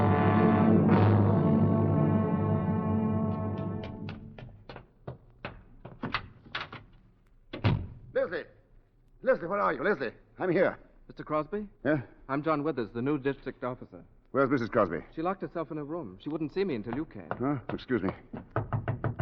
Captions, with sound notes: (knocking) Leslie, Leslie, where are you, Leslie? I'm here. Mr. Crosby? Yeah? I'm John Withers, the new district officer. Where's Mrs. Crosby? She locked herself in her room. She wouldn't see me until you came. Huh, excuse me.